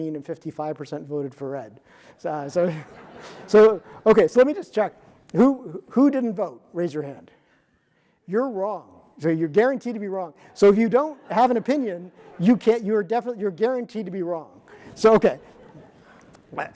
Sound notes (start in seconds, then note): 2.5 audience laughing